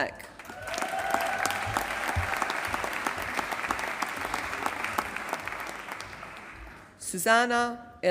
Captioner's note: applause